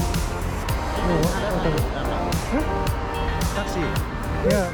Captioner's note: laughs